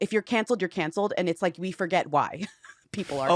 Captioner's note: chuckles